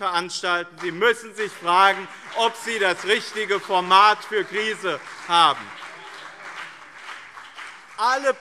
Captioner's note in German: Beifall BÜNDNIS 90/DIE GRÜNEN und CDU - Zurufe SPD